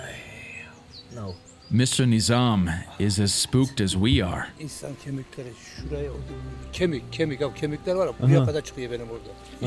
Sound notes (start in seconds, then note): 4.7 speaks foreign language